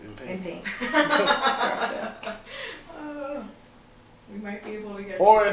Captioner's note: laughs